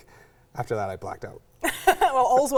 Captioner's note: laughs